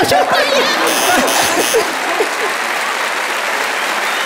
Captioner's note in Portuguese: campainha